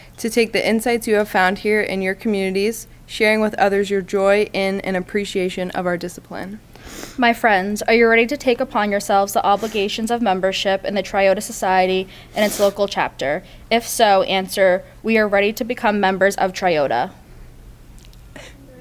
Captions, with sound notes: to take the insights you have found here in your communities, sharing with others your joy in and appreciation of our discipline. My friends, are you ready to take upon yourselves the obligations of membership and the Triota society and its local chapter? If so, answer, "We are ready to become members of Triota." [Inductees repeat].